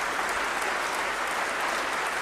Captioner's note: applause